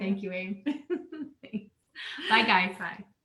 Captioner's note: laughing